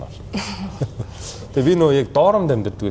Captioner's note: laughs